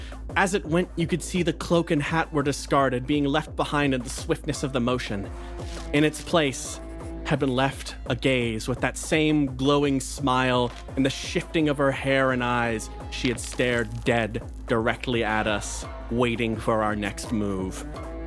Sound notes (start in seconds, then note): none